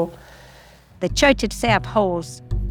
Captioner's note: soundbite of archived recording